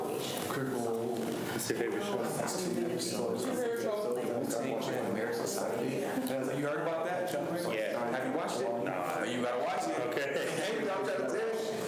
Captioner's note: students chatter